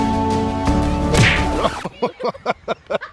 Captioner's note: inspiring music continues; branch snapping; laughing